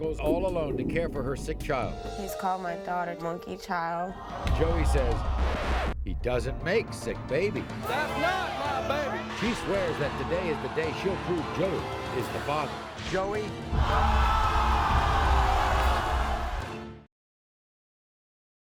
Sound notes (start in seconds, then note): 13.9 audience cheers